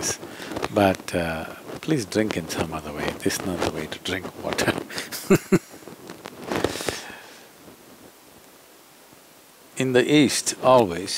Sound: laughs

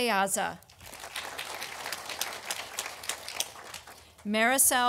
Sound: audience applauding

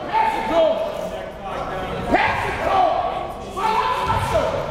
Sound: gymnasium bustles

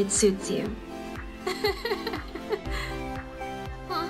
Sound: laughs

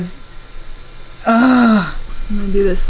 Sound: frustration

